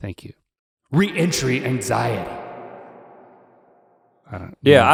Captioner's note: echo bouncing